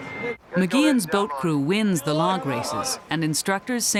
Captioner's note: voiceover